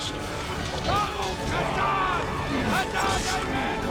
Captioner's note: dain shouting in dwarvish